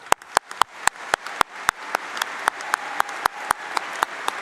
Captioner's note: applause